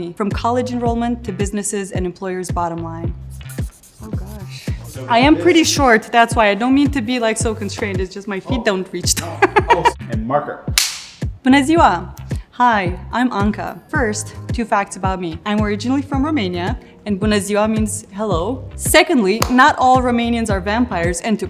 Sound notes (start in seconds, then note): 9.1 laughs; 10.8 marker snaps